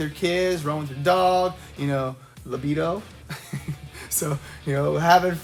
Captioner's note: chuckles